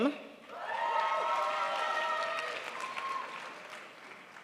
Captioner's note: crowd applauds